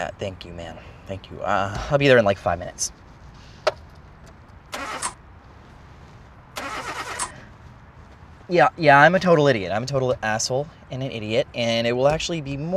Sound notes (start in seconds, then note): 3.6 car clicks; 6.5 engine not turning over